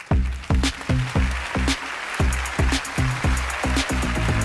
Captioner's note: applause